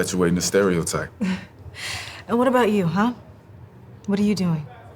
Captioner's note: chuckles